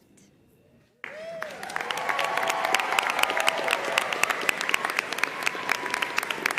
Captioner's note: audience cheering and applauding